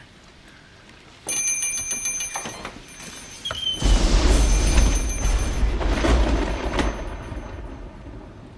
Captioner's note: thunder & lightning; door bell